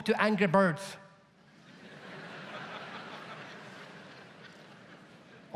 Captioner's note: audience laughs